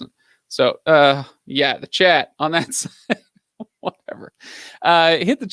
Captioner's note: laughs